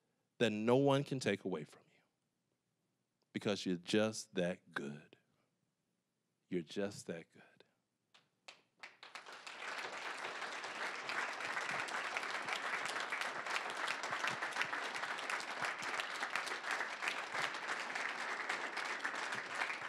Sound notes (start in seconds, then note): 8.7 applause